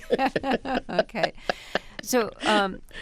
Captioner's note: laughter